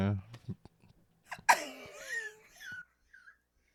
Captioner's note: laughing